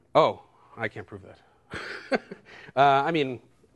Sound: laughs

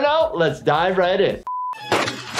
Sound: beep; gun fires

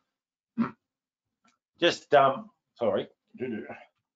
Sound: clears throat

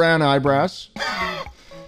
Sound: exhale

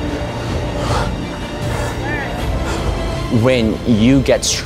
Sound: heavy breathing

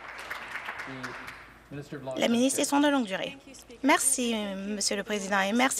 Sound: some Applause

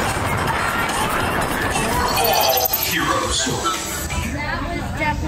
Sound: passengers shout

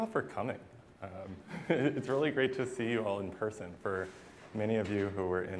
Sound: laughter

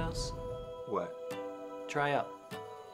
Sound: voiceover

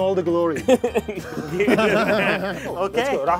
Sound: all laughing

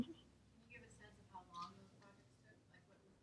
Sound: voiceover

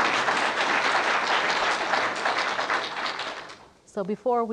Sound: applause

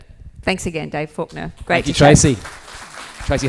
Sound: applause

